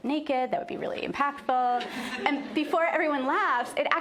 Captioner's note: laughter